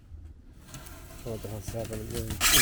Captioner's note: foam scraping